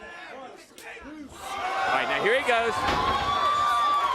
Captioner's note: crowd cheering